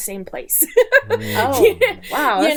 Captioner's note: laughing